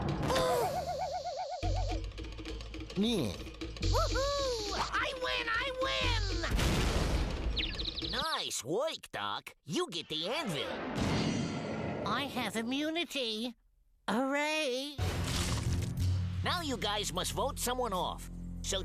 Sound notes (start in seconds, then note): 2.7 jeers